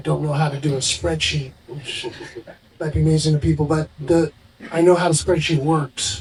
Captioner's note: laughing